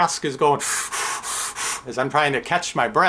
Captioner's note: makes blowing sounds